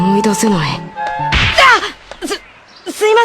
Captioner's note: bam!